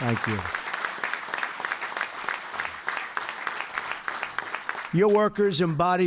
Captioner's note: applause